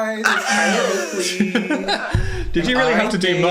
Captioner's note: Dan laughs; Phil laughs